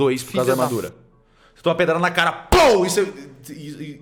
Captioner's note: pow